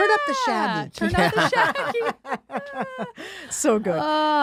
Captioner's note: all laughing